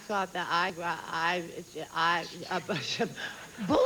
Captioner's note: stammering